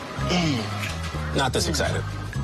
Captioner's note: grunting